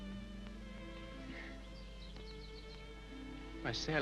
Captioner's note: Sally sobs lightly